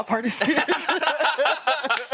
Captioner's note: everyone laughs